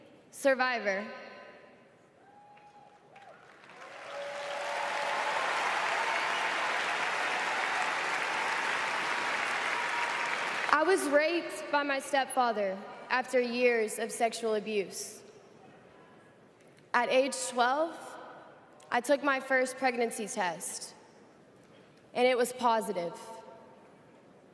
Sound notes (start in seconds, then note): 7.7 applause